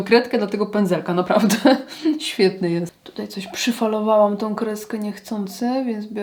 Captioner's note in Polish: śmiech